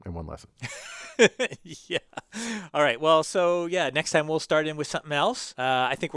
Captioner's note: laugh